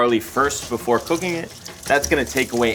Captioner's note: water jostles